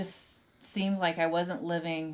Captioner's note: none